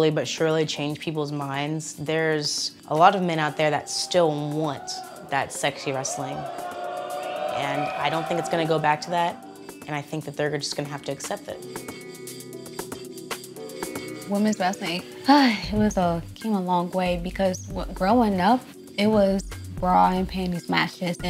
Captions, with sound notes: but surely change people's minds. There's a lot of men out there that still want that sexy wrestling. [crowd cheers and whistles] And I don't think it's gonna go back to that. And I think that they're just gonna have to accept it. [mellow ambient music] - Women's wrestling- [sighs] it was a-it came a long way because growing up, it was bra and panties matches